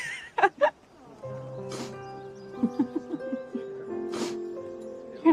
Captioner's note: laughs